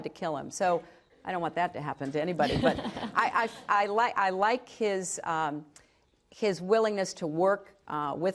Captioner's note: laughter